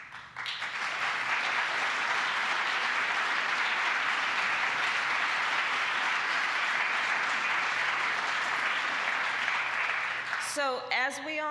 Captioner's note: applause